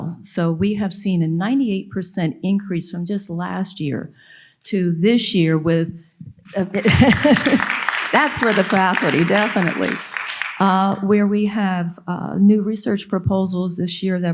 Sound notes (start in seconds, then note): 6.5 audience applauding